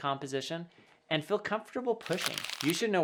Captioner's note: paper rubbing